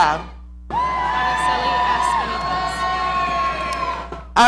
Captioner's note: audience cheering